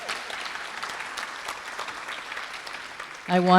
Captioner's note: applause